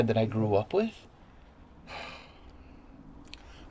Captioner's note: sigh